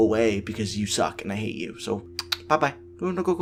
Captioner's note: clicks tongue